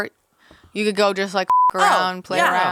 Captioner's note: beep